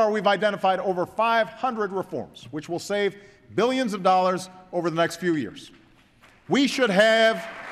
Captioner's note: applause